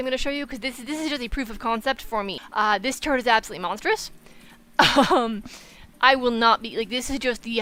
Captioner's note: chuckles